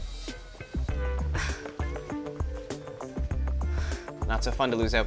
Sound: scoffs, then sighs

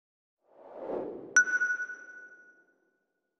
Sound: logo whooshes into view, stopping with a sonar-like 'ping'

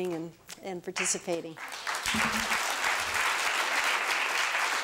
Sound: applause

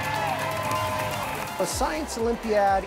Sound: cheering

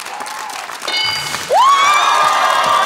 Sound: bell dings; cheering

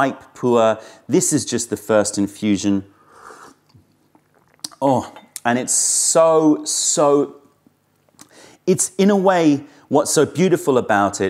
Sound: sips tea

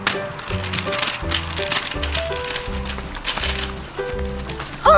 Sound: scooter clicking

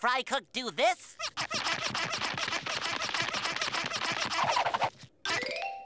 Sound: squeaking

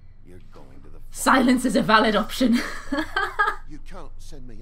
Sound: laughs

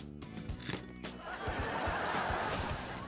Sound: laughing

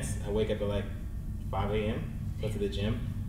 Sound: none

